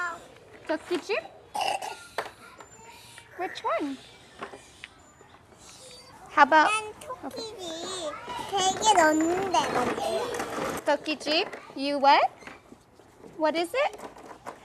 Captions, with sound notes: "TOKKI JIB"? WHICH ONE? HOW ABOUT... [SPEAKS KOREAN] "TOKKI JIB"? YOU WHAT? WHAT IS IT?